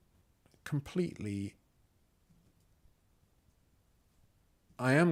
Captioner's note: silence